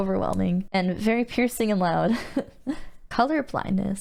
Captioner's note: giggles